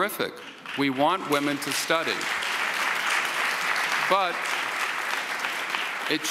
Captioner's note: audience applauds